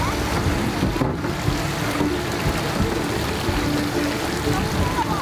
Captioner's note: water splashing